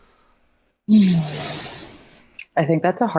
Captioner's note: sighs